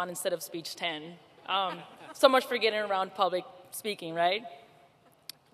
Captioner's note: laughter